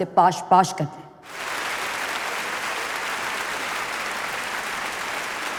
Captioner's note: applause